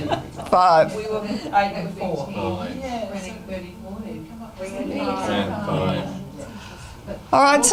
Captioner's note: audience chatter